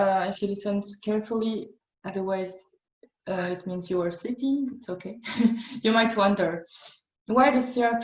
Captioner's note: chuckle